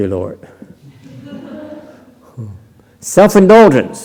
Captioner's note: laughter